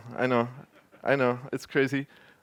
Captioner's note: laughter